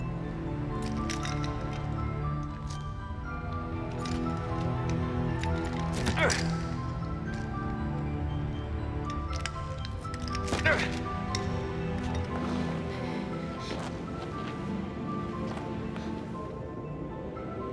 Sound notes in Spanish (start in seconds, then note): 6.4 William gruñendo